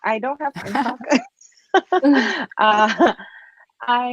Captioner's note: laughing